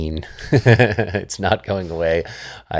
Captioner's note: laughs